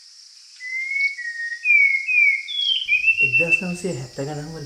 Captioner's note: Spot-wing thrush singing